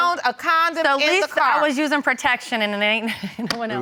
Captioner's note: laughs